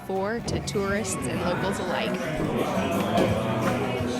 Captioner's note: squeeky door. Country Music